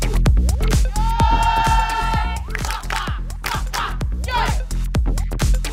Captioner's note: chants